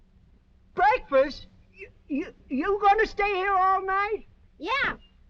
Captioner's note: stammering